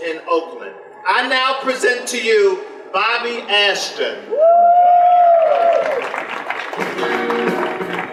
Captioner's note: audience applause